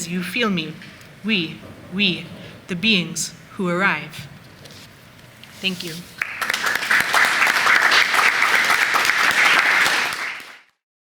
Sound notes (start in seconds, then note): 6.1 applause